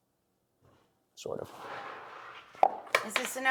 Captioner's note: ice clattering